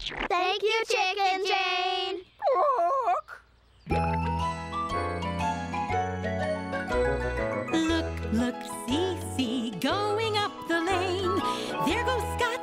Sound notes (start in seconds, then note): 2.3 squawking; 7.8 singing